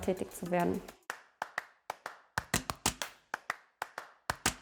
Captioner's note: rhythmic clapping